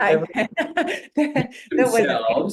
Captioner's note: laughter